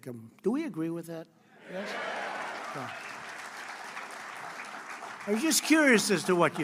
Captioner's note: applause